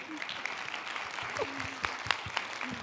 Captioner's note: applause